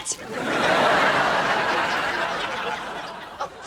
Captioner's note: audience laughing